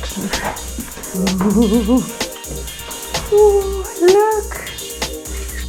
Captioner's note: ghost sound